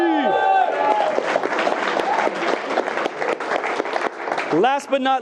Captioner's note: attendees cheering and clapping